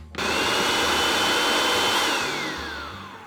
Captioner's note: processor running